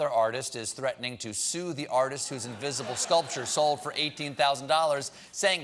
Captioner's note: laughter